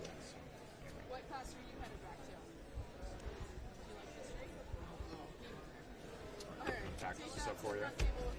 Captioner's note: background chatter